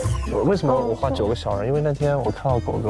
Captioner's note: explains in panic